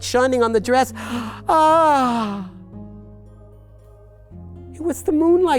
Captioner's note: gasps